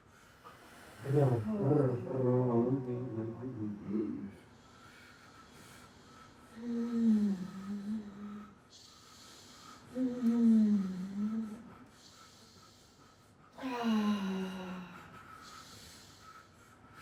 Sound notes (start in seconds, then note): 1.0 moaning; 2.3 humming; 2.3 moaning